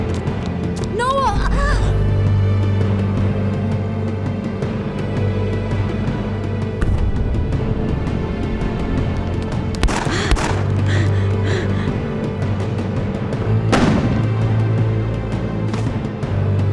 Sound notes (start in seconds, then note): 9.8 gunfire popping; 10.8 Siena panting; 13.7 gunfire booming